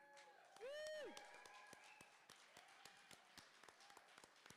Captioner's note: cheering